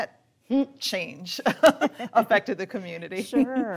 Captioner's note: laughing